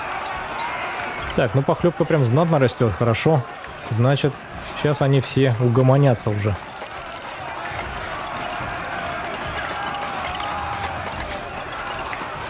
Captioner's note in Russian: ликование